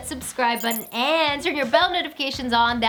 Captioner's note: electronic beeping